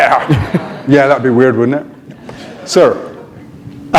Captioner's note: chuckle